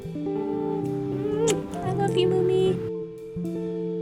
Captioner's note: smooch